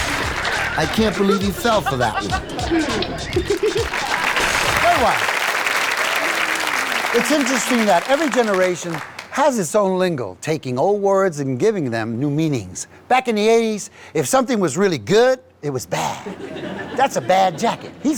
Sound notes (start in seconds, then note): 3.5 applause